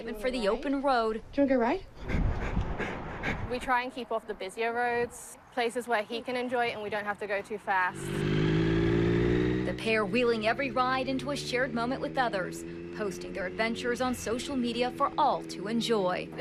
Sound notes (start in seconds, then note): 2.0 Han pants